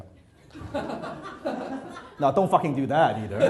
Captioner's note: audience laughs